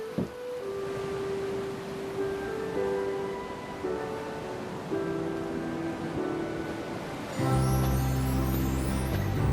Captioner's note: ocean waves rolling in